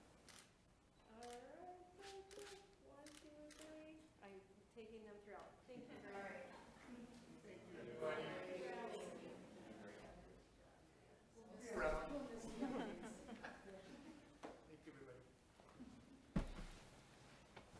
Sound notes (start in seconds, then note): 0.2 camera shuttering; 7.9 board members chattering and chuckling softly